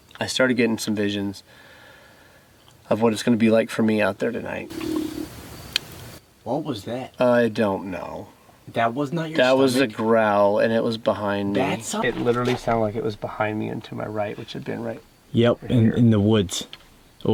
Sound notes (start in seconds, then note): 5.1 voice growling